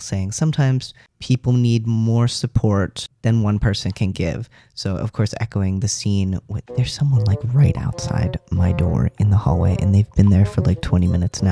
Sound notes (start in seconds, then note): 6.6 speaking softly